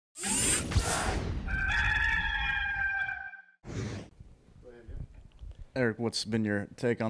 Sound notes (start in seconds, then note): 0.2 mechanical sound effects; 1.4 cock crowing